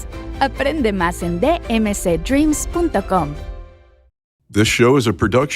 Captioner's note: announcer speaking Spanish